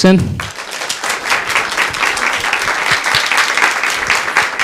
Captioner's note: applause